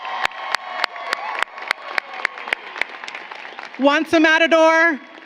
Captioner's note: applause